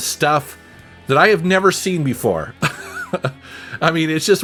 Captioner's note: laughing